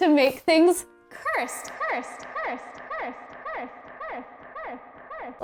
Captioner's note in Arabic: صدى صوتي